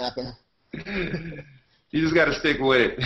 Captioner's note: laughter